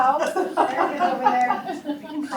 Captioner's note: laughs